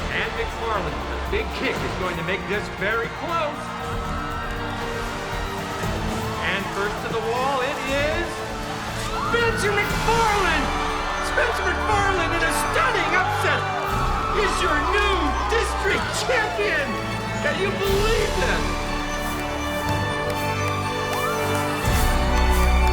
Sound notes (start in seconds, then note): 4.3 adventurous music; 10.5 crowd cheers; 18.8 upbeat inspirational music